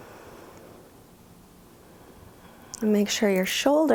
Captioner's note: inhales; exhales